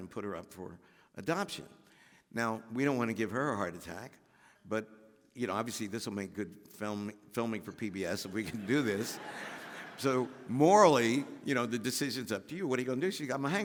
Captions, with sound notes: and put her up for adoption. Now we don't want to give her a heart attack, but you know obviously this will make good film filming for PBS if we can do this." (audience laughing) "So morally, you know, the decision's up to you what are you going to do?"